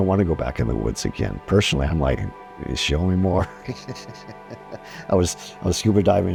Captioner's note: laughs